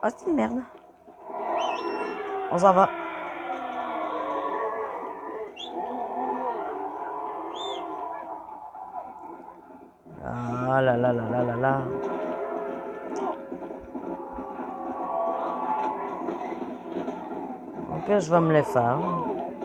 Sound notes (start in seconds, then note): 1.5 music and whistle; 3.3 hungry zombies scream and hiss; 13.3 music and cries of the zombies; 19.3 screams from burning zombies